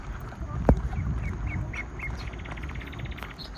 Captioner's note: birds chirping